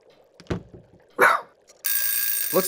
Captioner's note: barks